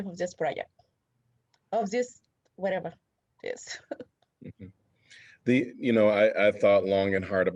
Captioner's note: laughter